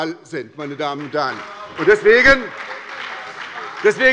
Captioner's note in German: Beifall bei der SPD